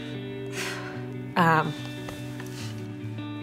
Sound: exhales

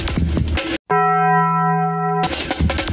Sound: bell ringing sound effect

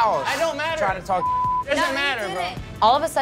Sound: beep

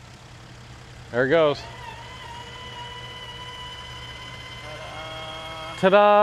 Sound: gates buzzing

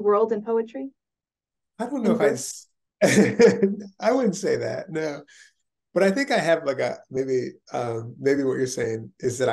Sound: chuckles

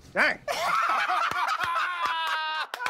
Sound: laughter

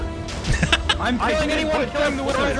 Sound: laughs

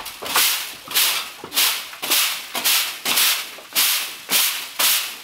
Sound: broom scraping against floor

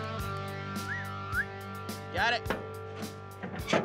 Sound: whistles

